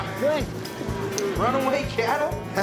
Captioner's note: cattle stampeding